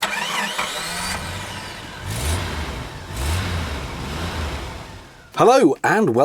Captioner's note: sound of an engine starting and revving